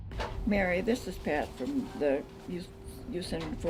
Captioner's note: pat